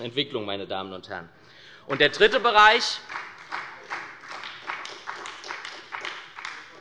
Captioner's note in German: Beifall bei der SPD